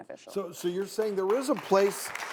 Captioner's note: audience claps